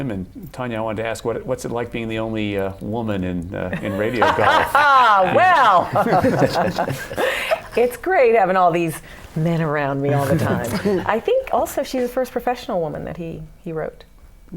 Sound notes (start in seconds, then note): 3.7 laughter; 10.1 laughter